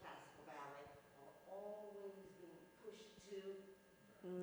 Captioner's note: speaks faintly